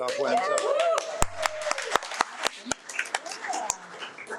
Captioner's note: audience applauding